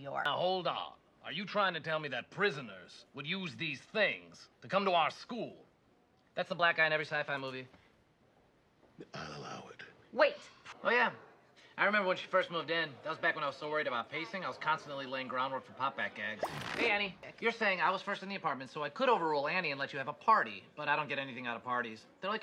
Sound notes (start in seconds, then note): 16.4 pop noise